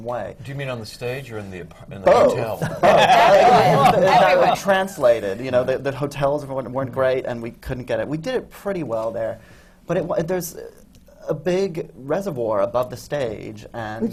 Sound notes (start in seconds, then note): 2.6 laughter